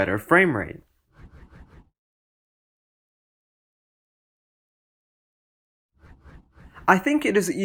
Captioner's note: transition swooshes